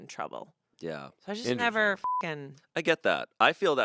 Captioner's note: beep